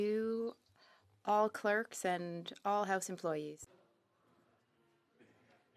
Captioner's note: speaking French